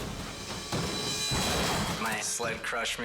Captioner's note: snowmobile crashing